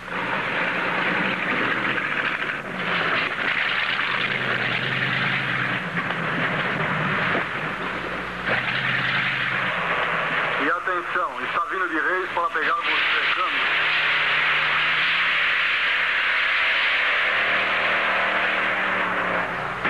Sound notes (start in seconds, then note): 9.3 man On Radio